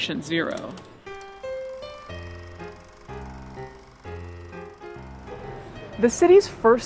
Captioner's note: projector whirring; bouncy music